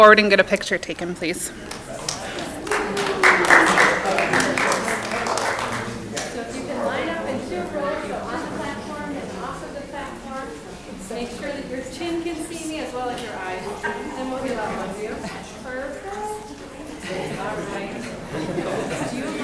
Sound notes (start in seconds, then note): 3.2 audience clapping; 14.4 people chattering drowns out speaker